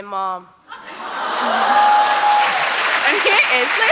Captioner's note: applause